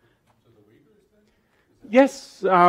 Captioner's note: audience member speaks in the background